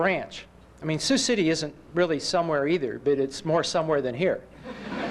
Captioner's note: laughter